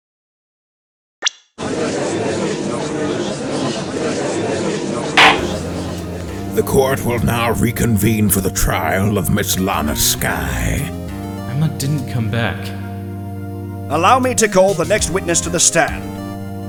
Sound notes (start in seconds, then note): 1.7 gallery chattering; 5.2 gavel slams!